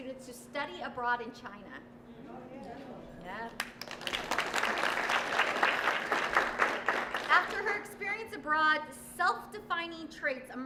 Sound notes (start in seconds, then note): 3.5 applause